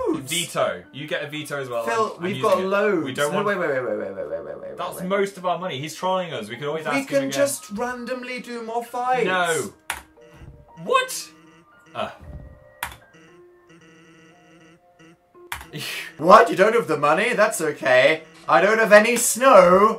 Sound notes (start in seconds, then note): 9.8 clicks